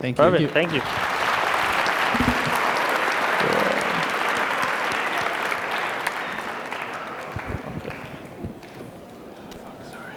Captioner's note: applause